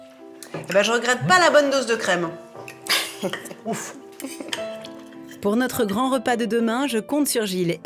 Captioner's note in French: rires